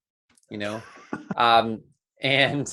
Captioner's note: laughing